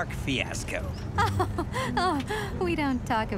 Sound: laughing nervously

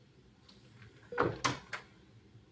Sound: door closes

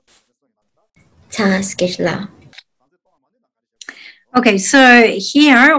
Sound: speaks in foreign language

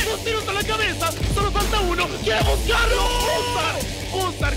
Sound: foreign language

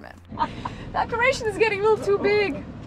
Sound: laughing

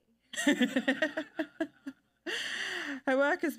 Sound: panelists chuckle

